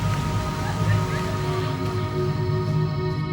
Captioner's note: laughing